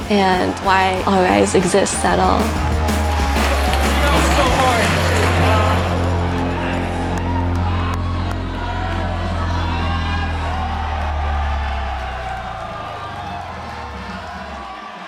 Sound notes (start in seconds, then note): 5.6 crowd chatters; 11.1 crowd cheers